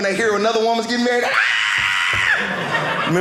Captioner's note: screaming